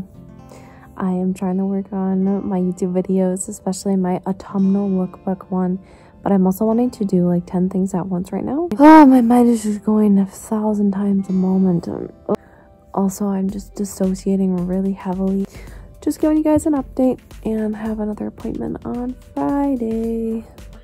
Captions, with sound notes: I am trying to work on my Youtube videos especially my Autumnal Lookbook one, but I'm also wanting to do like 10 things at once right now (sigh) my mind is just going 1000x a moment; ugh also I'm just dissociating really heavily just giving you an update & having next appointment on Friday!